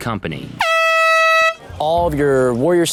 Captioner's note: air horn blares